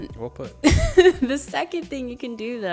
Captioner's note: chuckles